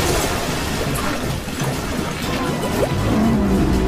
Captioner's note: bubbling